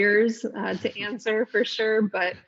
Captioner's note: laughs